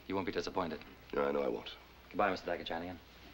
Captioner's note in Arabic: يتمتم